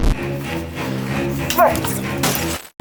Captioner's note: angry grunt